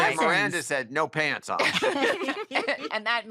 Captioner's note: chuckling